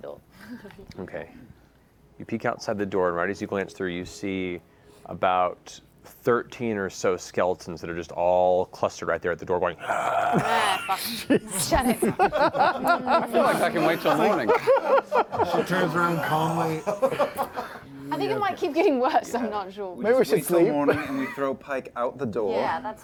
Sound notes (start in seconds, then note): 9.8 zombie groans